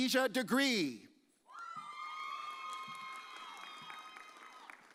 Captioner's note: audience cheers